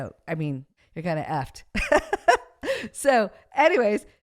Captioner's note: laughs